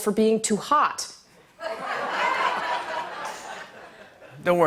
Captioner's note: laughter